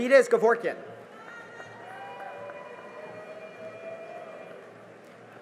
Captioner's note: cheering and applause